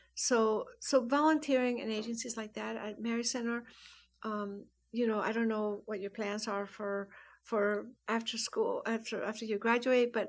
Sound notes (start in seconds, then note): none